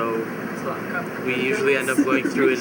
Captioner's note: laughs